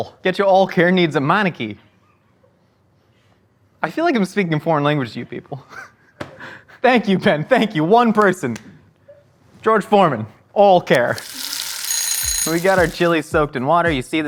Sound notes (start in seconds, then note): 11.1 bell ringing